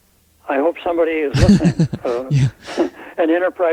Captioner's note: laughter